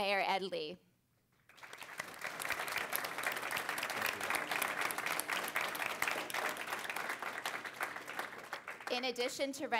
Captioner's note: applause